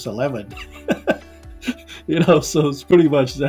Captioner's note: chuckling